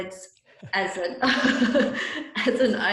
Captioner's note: laughter